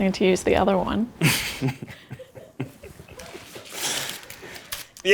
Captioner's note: laughs